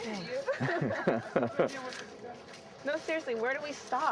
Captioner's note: chuckling